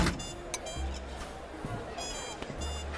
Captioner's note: all chattering